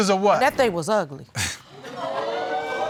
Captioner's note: audience exclaiming